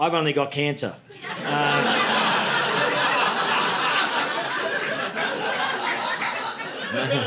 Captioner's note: audience laughing